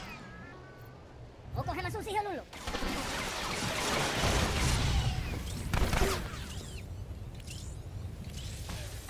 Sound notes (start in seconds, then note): 1.8 speaking foreign language; 2.6 gun firing